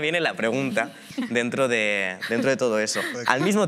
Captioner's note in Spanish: algunos ríen